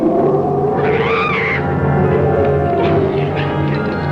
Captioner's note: Small Dove screams